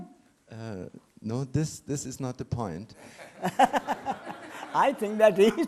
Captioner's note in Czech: smích